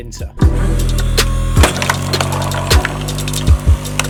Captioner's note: wood splitting